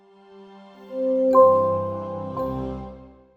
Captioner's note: logo chiming